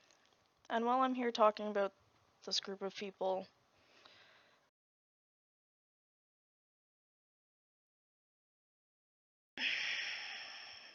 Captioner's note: sigh